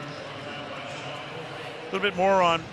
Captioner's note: pa announcement